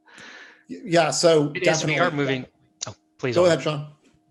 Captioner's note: group chatter